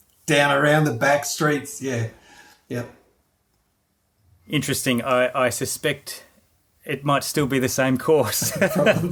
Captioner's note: laughing